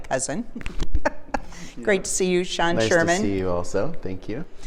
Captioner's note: chuckling